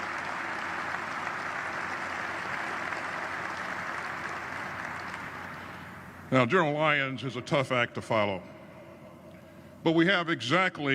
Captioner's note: applause